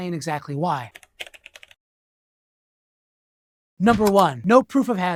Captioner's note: keyboard clicking